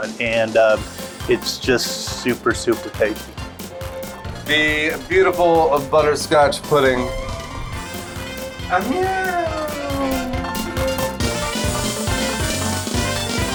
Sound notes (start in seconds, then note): 8.1 exclaims; 10.6 zestful music